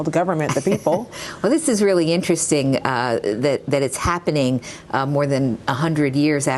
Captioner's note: laughter